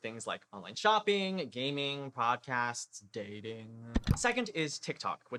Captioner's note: click